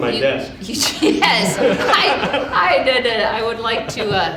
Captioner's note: audience laughing